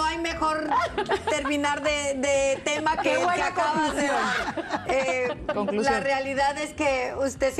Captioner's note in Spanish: risas